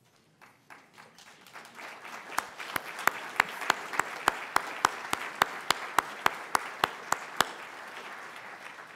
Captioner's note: audience applauds